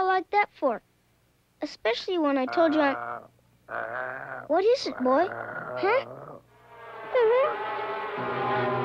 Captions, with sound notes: Especially when I told you I-- (growling) What is it, boy? Huh? (bees buzzing) (whimpers)